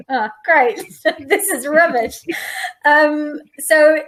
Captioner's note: laughs